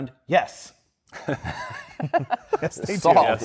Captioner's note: laughs